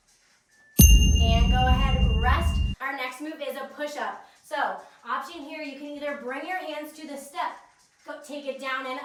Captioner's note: ding